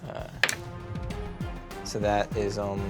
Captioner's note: rolls dice